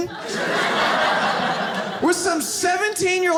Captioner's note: audience laughs